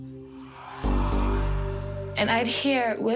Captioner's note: whispering